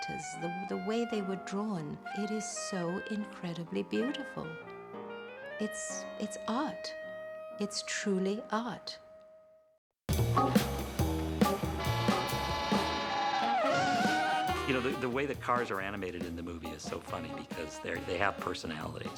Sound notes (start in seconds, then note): 11.7 horn honking; 11.8 tires screeching